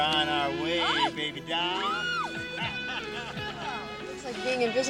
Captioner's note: Jill screams